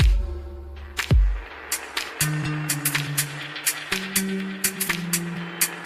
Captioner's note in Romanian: Aplauze